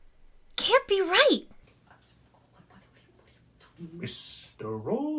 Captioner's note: PHOENIX and MAYA whisper